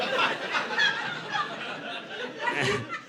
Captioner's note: audience laughing